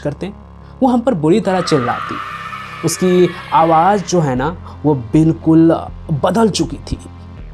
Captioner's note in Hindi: चीखने की आवाज़